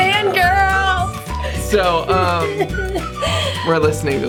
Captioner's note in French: rire